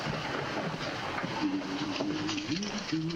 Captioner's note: humming